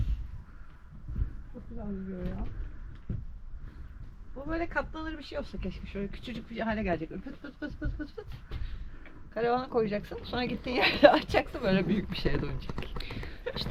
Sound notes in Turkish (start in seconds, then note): 7.2 kahkaha